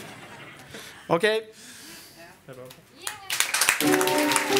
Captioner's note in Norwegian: Applaus